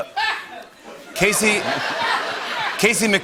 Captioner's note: laughter